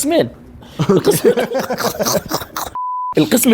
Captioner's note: both laugh